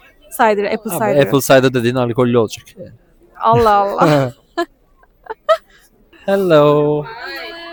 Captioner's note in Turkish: kahkaha